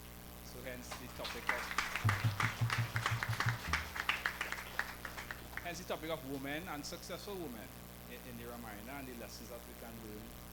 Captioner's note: applause